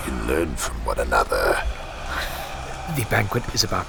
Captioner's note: heavy breathing from Cydar